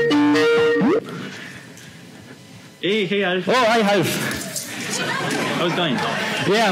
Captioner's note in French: rires